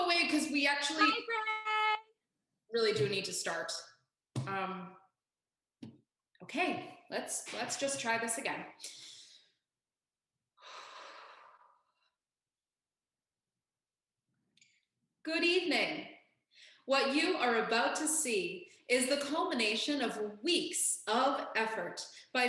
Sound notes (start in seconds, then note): 13.1 deep breath